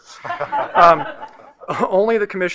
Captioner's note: panelists laughing